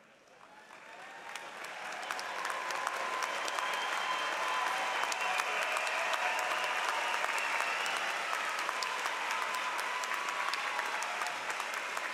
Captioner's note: applause